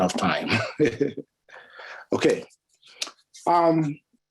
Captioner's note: chuckles